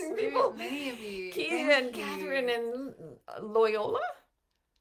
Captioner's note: murmurs